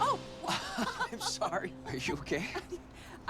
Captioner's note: laughs